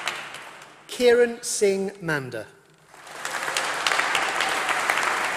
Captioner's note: applause